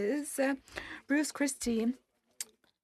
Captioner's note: speaking French